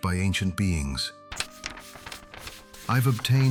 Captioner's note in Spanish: Papeles crujen